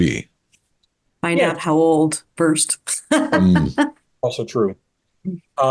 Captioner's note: laughs